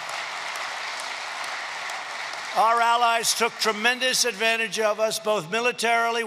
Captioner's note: applause